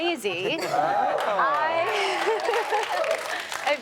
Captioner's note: chuckles